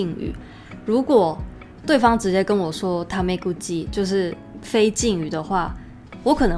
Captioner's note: casual speech